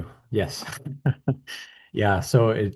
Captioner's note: laughs